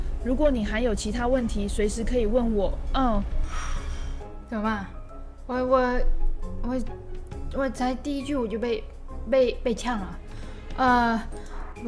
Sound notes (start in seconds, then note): 3.4 sigh